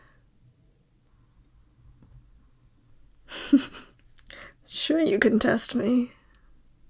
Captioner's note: laugh